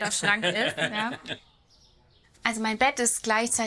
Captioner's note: laughter